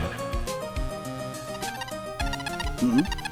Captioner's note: electromagnetic receiver beeping